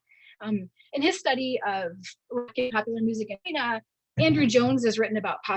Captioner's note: audio distortion